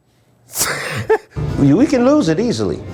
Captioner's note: laughs